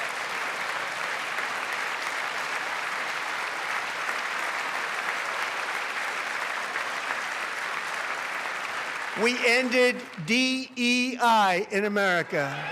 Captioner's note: applause